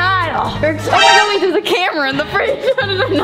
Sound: laughs

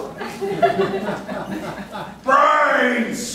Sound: audience laughing

